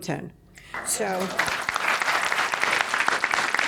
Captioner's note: applause